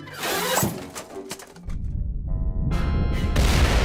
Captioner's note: deep rumble and explosion